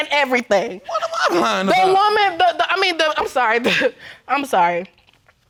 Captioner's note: stammers